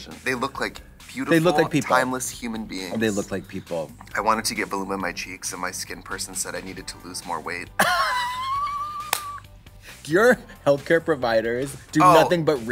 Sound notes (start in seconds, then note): 7.8 Katya laughs